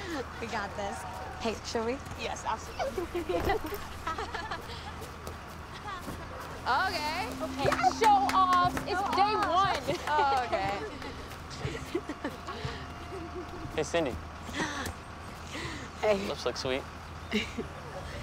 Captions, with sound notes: We got this. - Hey, should we? - Yes, absolutely. [all giggle] - Okay. - Okay. - Show-off. It's day one. - Oh, okay. [laughs] - Hey, Cindy. - Hey. - Your lips look sweet.